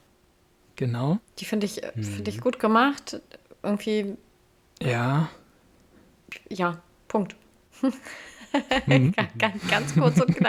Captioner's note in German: gelächter